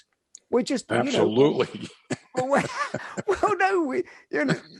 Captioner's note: laughs